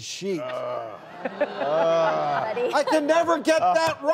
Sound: panel members and audience groaning

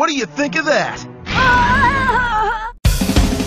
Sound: Ash's embarrassment vocalizations plunge into distortion

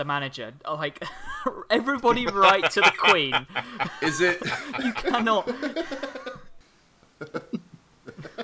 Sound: laughing

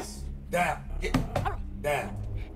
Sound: Adonis banging table

